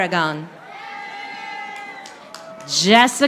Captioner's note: audience applauding